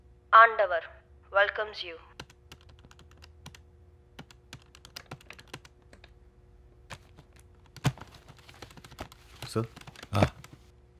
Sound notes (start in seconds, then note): 2.2 typing